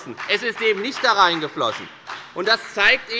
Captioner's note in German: Beifall bei der FDP